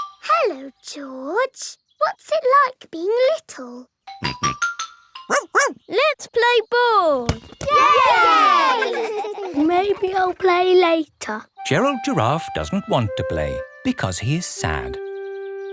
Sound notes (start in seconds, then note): 4.1 snorts; 5.3 barks; 7.6 all cheering and laughing